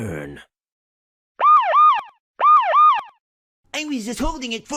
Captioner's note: police sirens